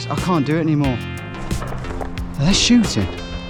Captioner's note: gun Shots